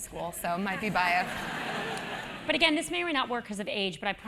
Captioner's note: laugh